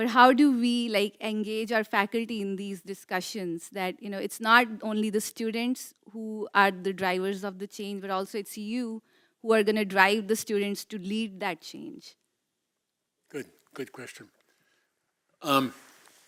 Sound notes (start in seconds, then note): none